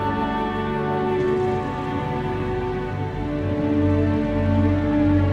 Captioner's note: engine rumbling